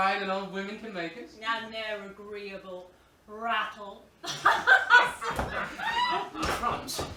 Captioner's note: laughs